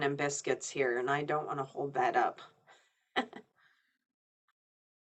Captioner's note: laughing